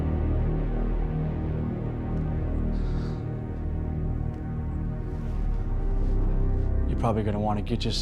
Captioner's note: sigh